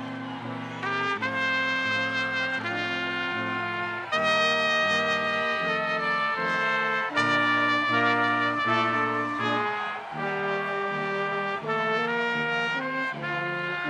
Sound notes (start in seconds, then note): 6.7 people cheering